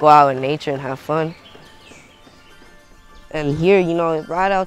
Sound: birds singing

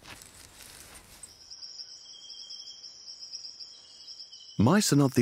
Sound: insects trill

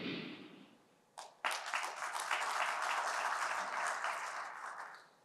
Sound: applause

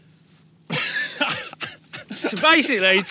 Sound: laughs

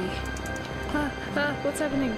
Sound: furious clicking

